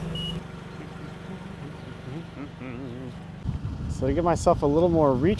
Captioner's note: humming